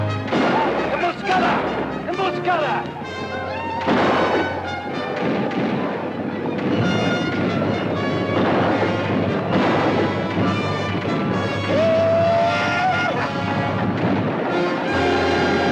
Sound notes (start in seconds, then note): 0.9 Apache speaks Spanish; 3.8 gun fires; 5.4 guns fire; 11.8 Apache howls